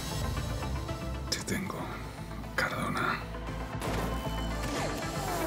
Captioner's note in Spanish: susurra